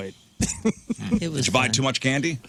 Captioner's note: laughing